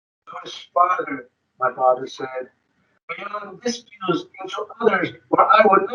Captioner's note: speaking distorted